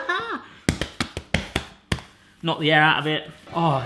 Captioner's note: laughs; slapping dough